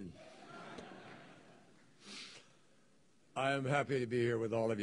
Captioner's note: laughter